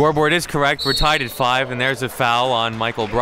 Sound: whistle blows

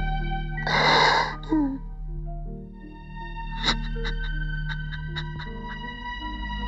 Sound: sobbing

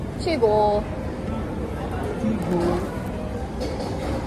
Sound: nom

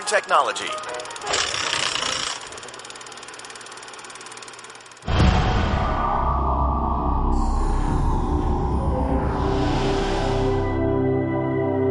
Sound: sound effects

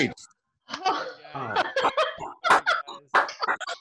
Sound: laughing

